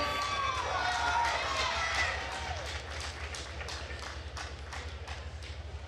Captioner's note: attendees cheering and applauding